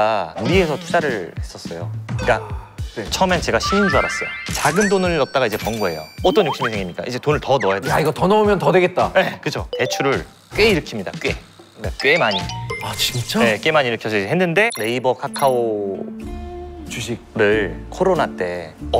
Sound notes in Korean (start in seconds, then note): 2.2 탄식